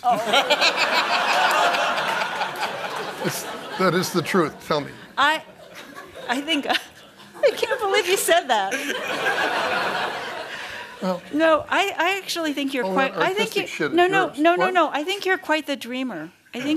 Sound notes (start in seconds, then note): 0.0 laughter; 8.9 laughter; 16.6 laughter